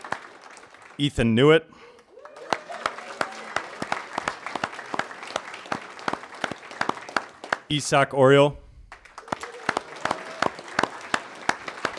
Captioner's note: applause